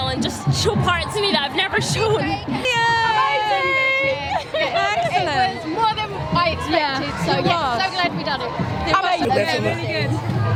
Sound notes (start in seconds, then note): 0.0 cheering; 3.7 laughing